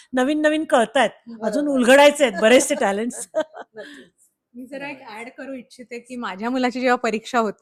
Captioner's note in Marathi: हास्य